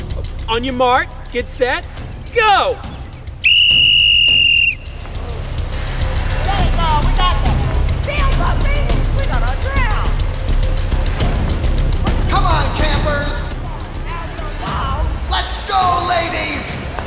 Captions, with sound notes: On your Mark, get set. Go. [whistle blow] Come on, campers. Let's go, ladies.